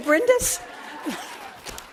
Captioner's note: applause; laughter